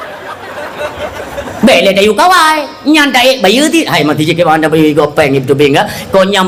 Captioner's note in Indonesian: tertawa